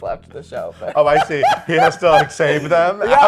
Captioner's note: laughing